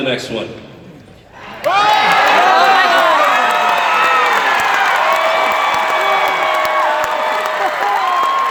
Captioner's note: audience Cheers; audience Continue To Cheer